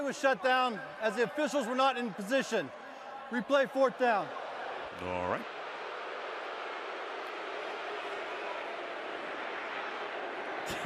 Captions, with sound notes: The play was shut down as the officials were not in position. Replay fourth down. All right. [crowd boos]